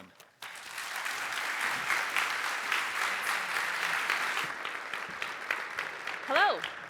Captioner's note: applause